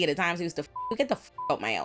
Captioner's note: beep